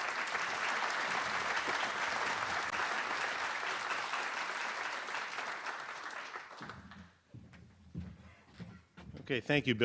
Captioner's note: applause